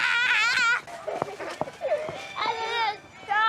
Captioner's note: roars and laughs; laughing and giggling